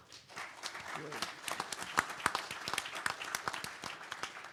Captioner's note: handclaps